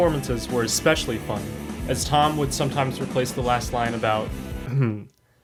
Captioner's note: ahem